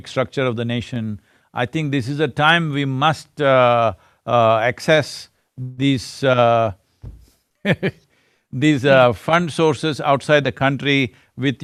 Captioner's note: laughs